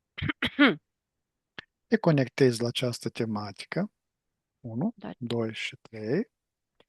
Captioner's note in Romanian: voce dreasă